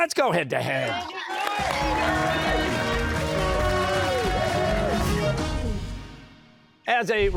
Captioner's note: cheers and applause